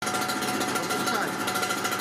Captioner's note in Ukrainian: Працює обладнання для запуску заглушки